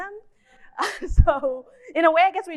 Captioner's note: narrator laughs